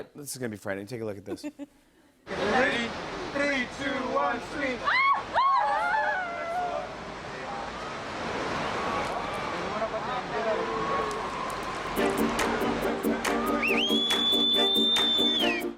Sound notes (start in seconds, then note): 4.8 screams; 7.4 speaking native language; 13.4 whistles